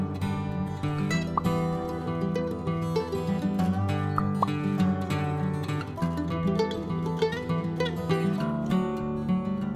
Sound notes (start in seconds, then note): 1.3 pop sound; 4.1 pop pop sound